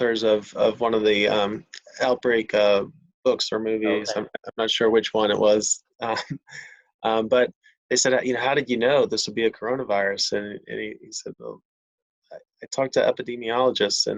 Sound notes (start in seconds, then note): 6.0 chuckles